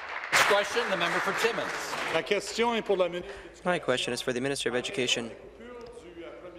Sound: applause

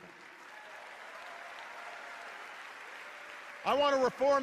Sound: applause

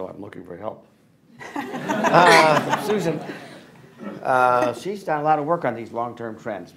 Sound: laughter

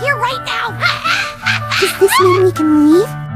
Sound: Scootaloo Goofy Ahh Laugh

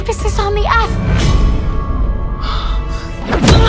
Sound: gasp

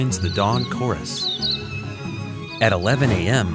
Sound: chirping

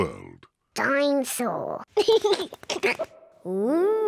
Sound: giggles

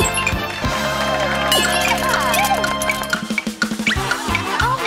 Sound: clock ticking

